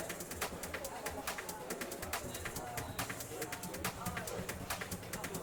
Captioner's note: people chattering